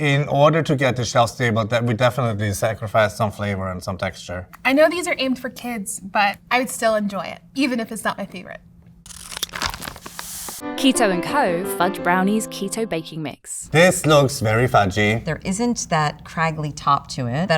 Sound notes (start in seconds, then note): 9.0 paper crinkling; 9.1 scissors snipping